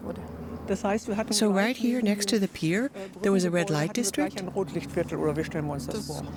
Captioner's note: in German